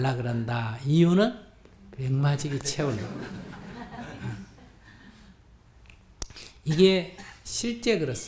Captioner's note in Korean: 청중 웃음